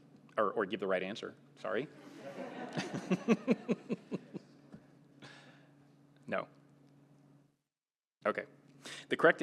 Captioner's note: laughter